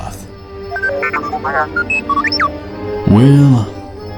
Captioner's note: beeps